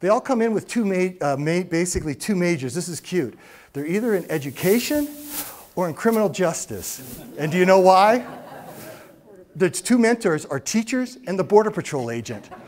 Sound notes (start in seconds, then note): 7.1 audience laughs